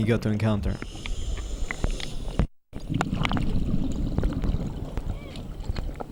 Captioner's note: air hissing; water bubbling; yelping faintly